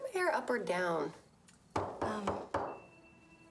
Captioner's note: knocking